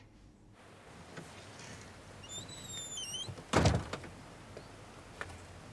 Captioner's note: door clattering and squeaking; birds chirping; footsteps plodding